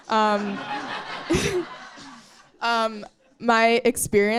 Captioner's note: audience laughing